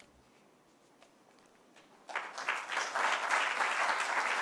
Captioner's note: applause